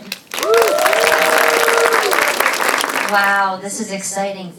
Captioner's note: audience applause